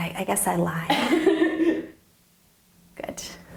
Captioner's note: laughing